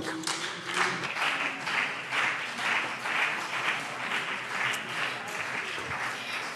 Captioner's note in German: Beifall CDU und BÜNDNIS 90/DIE GRÜNEN